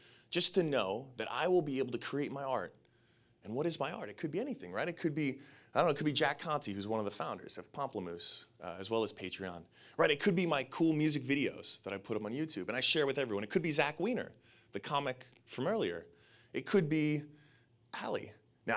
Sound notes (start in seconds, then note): none